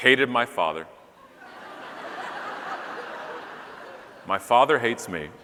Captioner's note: audience laughing